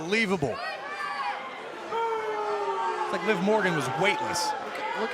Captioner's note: crowd cheering